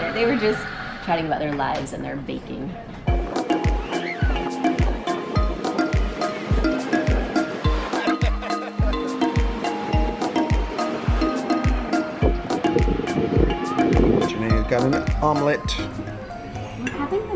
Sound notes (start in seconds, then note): 3.7 upbeat music; 7.9 laughs